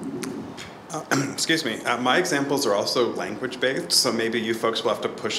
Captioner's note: coughs